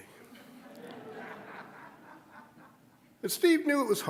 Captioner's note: audience laughing